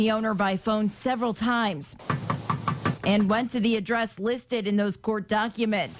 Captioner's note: nats - knock